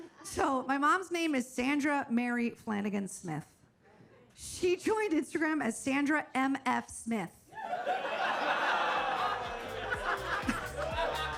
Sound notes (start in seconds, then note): 7.6 audience laughs